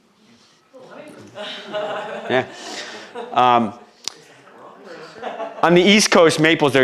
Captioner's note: audience laughs